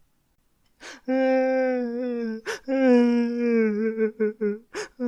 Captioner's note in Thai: เสียงร้องไห้